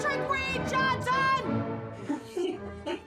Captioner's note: laughter